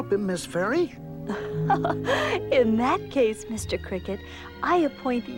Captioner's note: chuckles